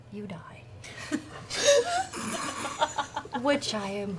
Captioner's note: laughter